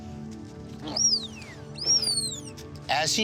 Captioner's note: tapir screeching